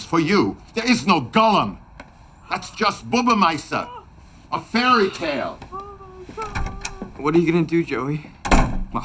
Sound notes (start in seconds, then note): 3.2 speaking in foreign language